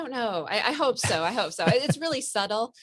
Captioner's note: laughs